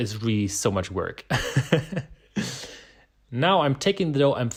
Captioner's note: laughing